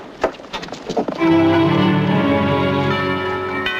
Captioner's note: bells tolling